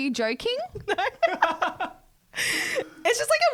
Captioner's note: laughing together